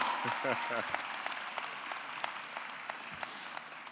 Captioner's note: audience clapping